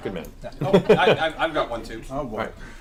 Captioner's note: all laugh